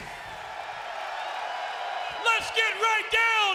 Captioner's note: crowd cheers